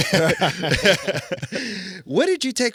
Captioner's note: laughing